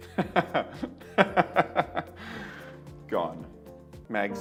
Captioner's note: laughs